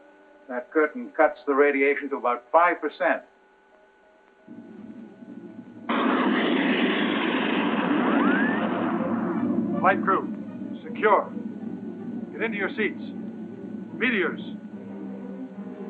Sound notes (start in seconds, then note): 4.5 meteor whooshing